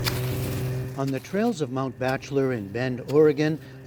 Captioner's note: voice-over